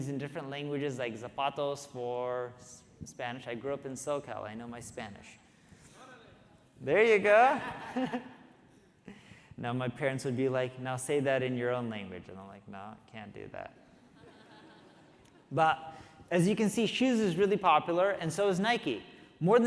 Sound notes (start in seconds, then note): 6.4 audience member shouting; 8.4 audience laughing; 14.1 audience laughing